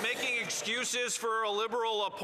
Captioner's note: some Applause